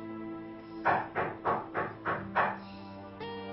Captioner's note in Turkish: Kapı çalıyor